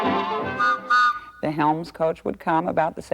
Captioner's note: whistle toots